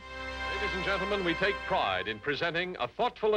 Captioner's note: voiceover